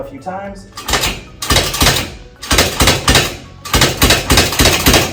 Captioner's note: machinery clanking